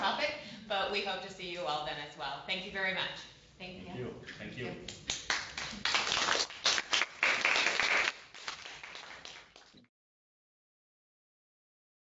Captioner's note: applause